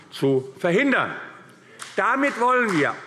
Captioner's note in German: Beifall AfD